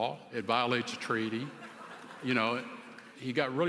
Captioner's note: laughter